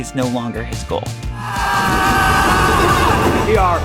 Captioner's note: all screaming